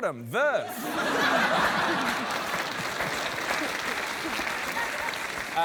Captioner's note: laughter and applause